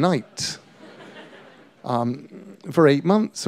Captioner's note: laughter